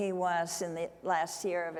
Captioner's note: none